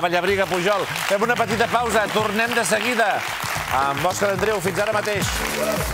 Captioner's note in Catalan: aplaudiments